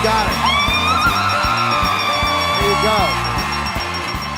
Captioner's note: screaming